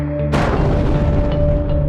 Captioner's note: boom!